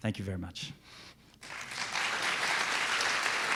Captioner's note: clapping